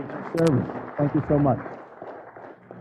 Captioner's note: applause